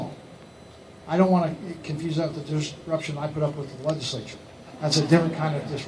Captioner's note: laughter